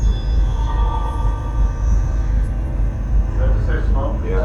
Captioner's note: ghostly voice